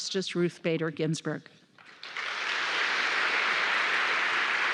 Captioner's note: applause